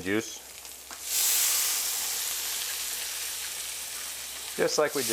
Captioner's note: pan sizzles